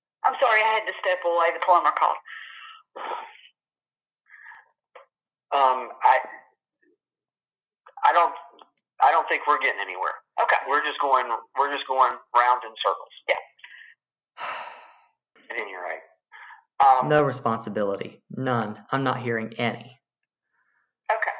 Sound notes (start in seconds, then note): 0.5 on phone; 14.4 sighs angrily